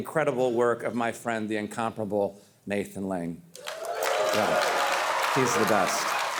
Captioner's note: audience cheering